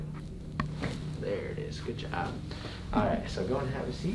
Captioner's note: crack